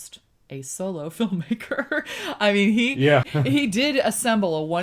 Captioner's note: laughs